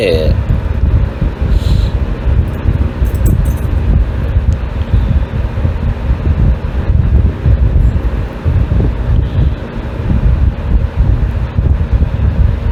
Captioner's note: Ella laughs; Caprice growling